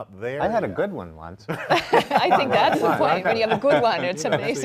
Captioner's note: panelists laughing